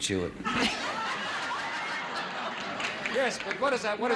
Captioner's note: audience laughs